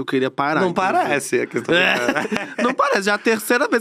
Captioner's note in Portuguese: risos